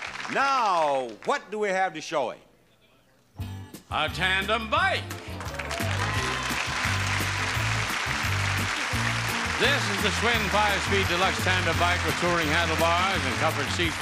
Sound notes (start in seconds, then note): 5.0 audience clapping; 5.4 upbeat music